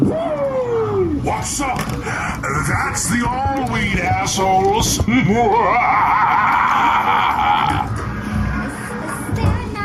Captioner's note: laughter